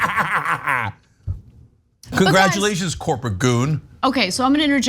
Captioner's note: laugh